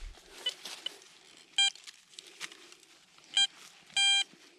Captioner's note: metal detector beeping